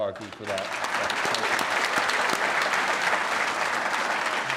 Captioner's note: applause